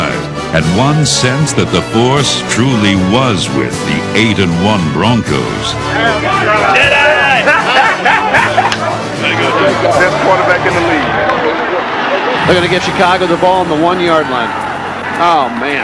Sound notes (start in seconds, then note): 7.0 laughs